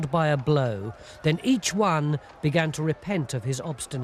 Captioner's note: sounds of battle